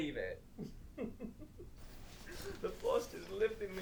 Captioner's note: Captain Brookes giggles